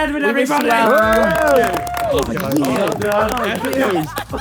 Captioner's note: group cheering